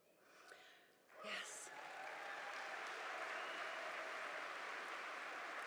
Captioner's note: audience applauding